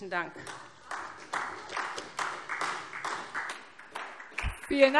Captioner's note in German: Beifall SPD